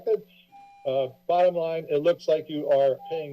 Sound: beeping

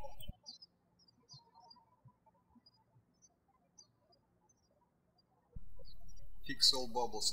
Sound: birds chirping

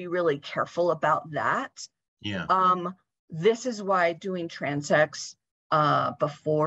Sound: talking; talking

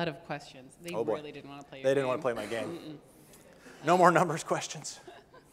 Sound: laughing

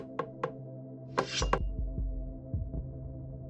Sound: boards creaking; metal scraping; somber music

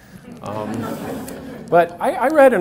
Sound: audience laughs

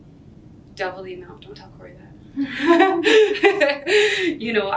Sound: laughs

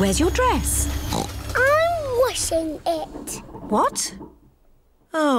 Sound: oinks

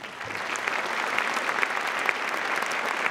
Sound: applause

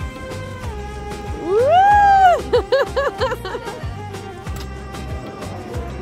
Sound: laughter

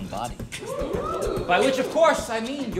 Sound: crowd

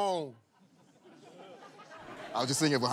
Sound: laughter

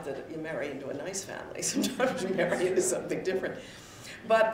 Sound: chuckles

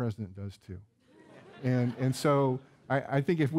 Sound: audience laughing

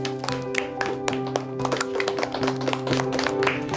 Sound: class clapping

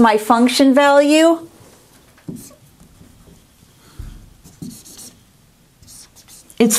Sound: sound of writing

